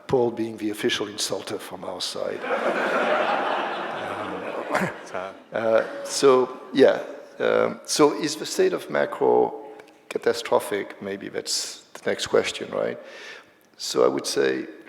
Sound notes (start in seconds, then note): 2.3 laughter